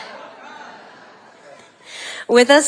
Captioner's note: audience laughing